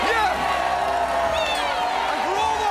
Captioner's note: all cheering